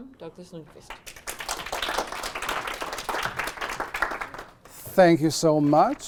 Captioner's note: applauding